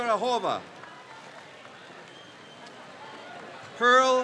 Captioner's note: crowd cheers